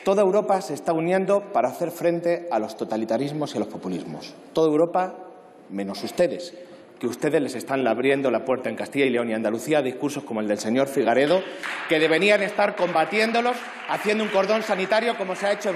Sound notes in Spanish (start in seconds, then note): 11.2 Aplausos